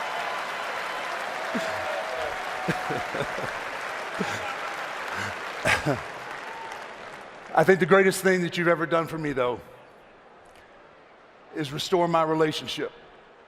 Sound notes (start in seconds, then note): 2.6 laughter; 4.3 applause